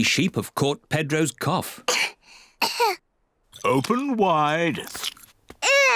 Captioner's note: both cough